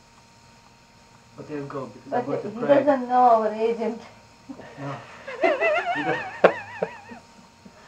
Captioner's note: laughter